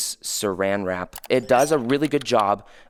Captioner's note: computer keys clicking; chime ringing